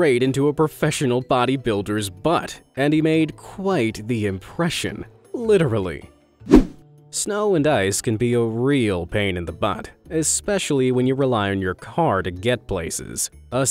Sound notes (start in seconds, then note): 6.4 image whooshing